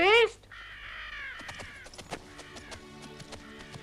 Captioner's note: gentle music; buzzards squawking